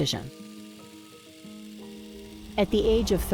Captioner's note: film clicks